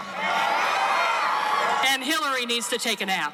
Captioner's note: cheering